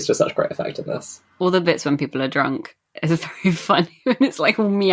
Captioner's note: laughing